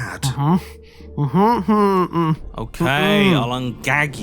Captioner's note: whimpering